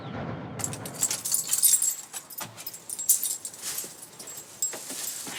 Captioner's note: keys jingling